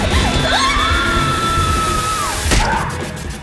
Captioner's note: screaming; grunting